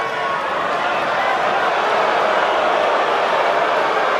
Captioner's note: crowd boos